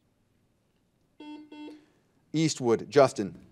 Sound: buzzer dings

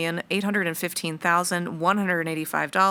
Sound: none

